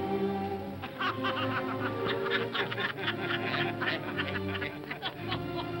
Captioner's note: all laugh